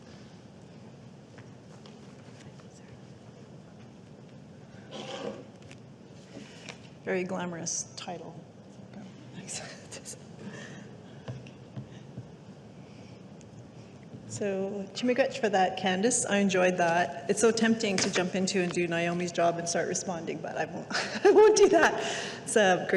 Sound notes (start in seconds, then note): 14.4 speaking indigenous language